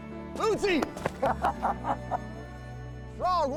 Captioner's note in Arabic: ضحك